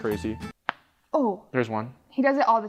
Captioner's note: neck cracks